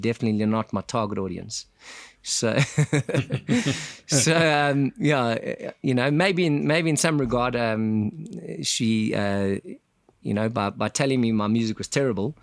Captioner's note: laugh